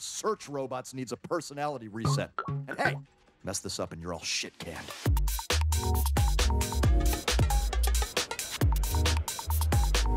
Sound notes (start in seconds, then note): 2.0 happy beeping; 5.7 electro music